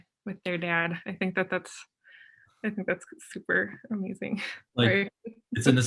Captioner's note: chuckles